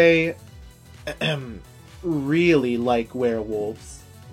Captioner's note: ahem